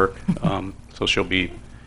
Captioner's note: chuckling